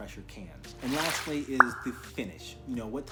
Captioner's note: swoosh pop